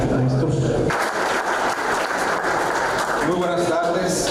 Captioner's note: aplause